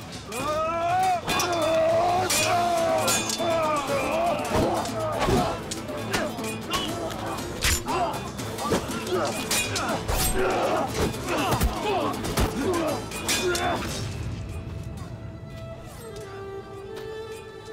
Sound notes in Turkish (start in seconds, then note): 0.2 Haykırma sesi; 4.7 Kılıç sesleri; 4.7 Müzik - Aksiyon